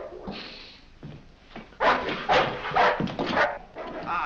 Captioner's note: dog barks ferociously